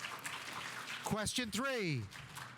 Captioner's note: audience applauding